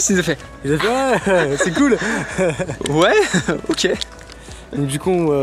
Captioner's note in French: Rires